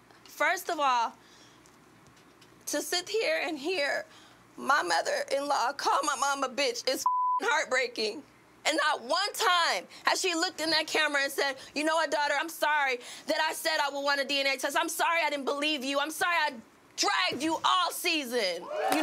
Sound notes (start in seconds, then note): 7.0 beep